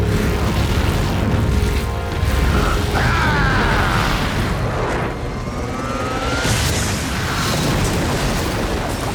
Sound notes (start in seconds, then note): 2.9 screaming